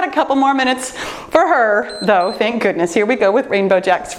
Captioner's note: timer beeps